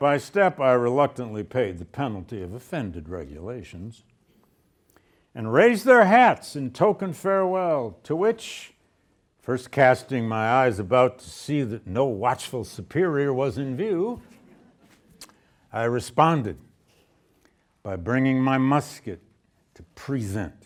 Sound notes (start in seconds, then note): 14.2 students laughing